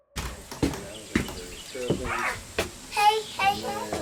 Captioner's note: door clicking